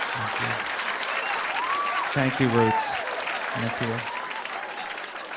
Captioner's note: laughter; cheers and applause; applause